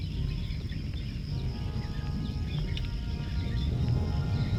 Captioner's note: volcano rumbling